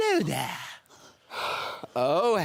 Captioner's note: heavy breaths